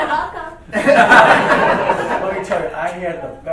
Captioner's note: laughing